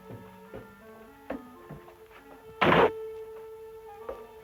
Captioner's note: hatch closing